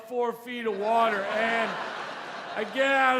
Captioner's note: audience laughs